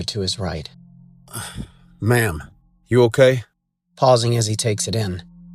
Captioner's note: sighs